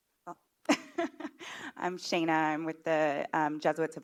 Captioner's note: laughs